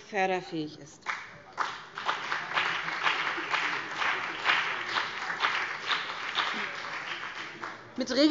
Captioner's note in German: Beifall BÜNDNIS 90/DIE GRÜNEN